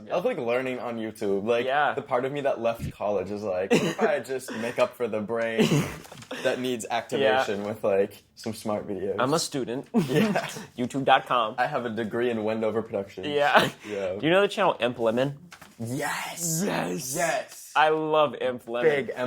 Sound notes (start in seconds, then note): 10.0 laughs; 14.0 laughs